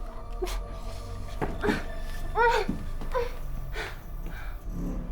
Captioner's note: Michelle whimpering